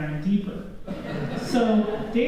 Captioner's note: laughter